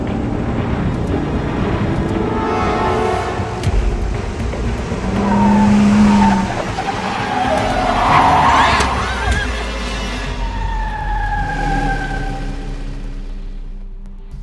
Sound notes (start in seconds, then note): 8.1 Alejandra screams